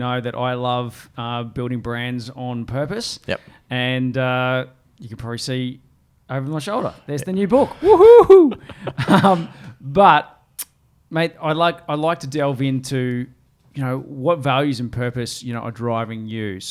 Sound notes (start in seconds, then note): 8.2 laughs; 8.4 cheers